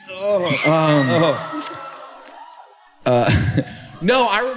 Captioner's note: laughter, screams from crowd